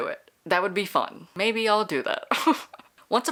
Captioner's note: laughs